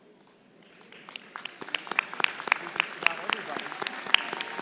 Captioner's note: applause